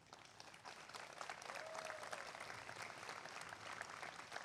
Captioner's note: applause